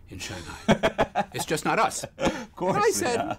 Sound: laugh

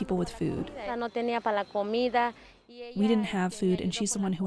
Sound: speaking in foreign language

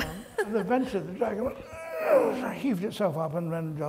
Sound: grunting noise

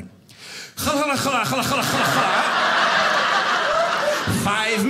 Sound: attempting to speak Arabic

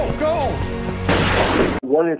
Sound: gunshot

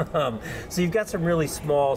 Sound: laughing

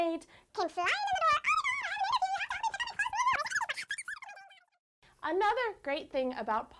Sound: rambling in fast, chipmunk, voice

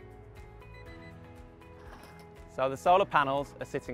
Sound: thermometer beeping

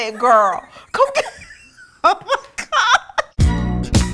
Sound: laughing

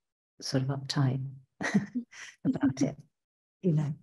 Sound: chuckling

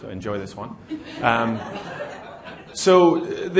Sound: laughter

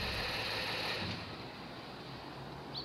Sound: engine shuts off

